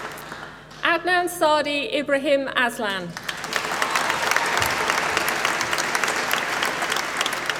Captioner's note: applause